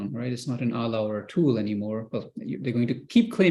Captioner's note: non-english